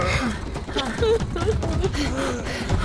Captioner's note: grunting; sobs